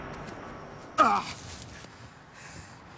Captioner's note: gun fires; groaning